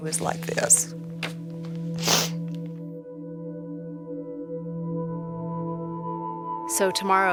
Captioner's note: sniffles